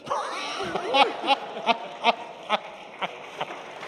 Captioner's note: laughter